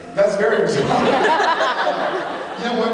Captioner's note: laughs